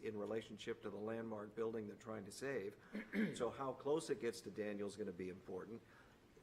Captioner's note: clears throat